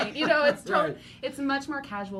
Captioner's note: laughing